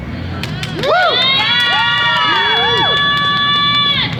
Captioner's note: applause